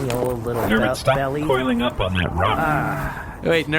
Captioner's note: sound of something unzipping